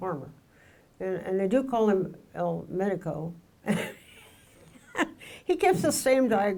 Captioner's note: laughs